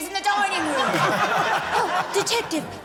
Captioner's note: laughter